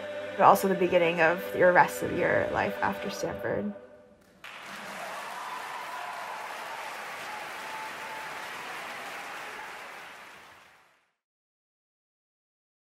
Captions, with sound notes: but also the beginning of the rest of your life after Stanford. (students cheering)